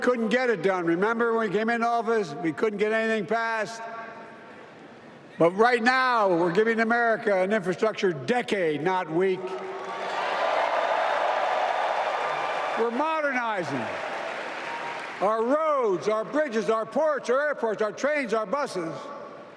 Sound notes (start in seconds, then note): 2.3 applause